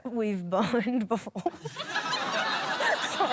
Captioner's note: laughter